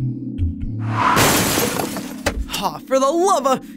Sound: glass shatter

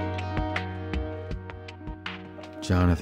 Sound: none

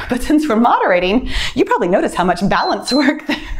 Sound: timer beeps

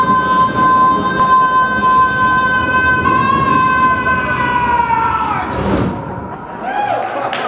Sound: thunder cracks, audience chuckling; applause

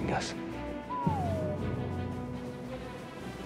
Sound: boop

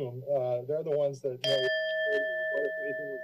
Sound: bell rings

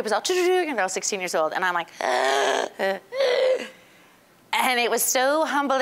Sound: gasping and wheezing

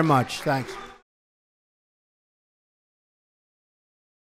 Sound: applause

